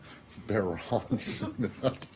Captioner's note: laughter